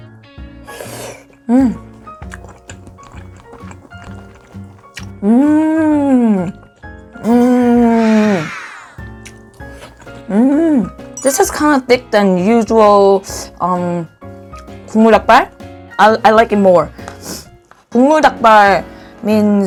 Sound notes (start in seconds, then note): 1.8 crunchy, chewy